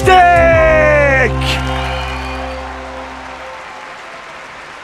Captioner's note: cheers and applause